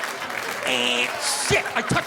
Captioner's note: imitating buzzer